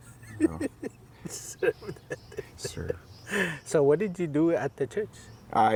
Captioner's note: laughs